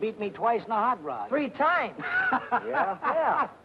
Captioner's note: happy laughing